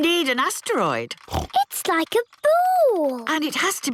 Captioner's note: snorts